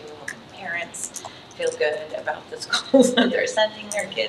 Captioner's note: chuckles